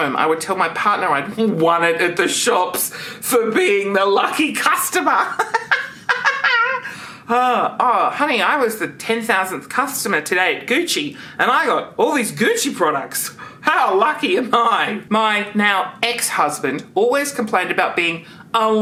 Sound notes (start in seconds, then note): 5.3 laughs